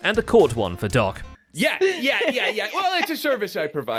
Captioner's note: laughing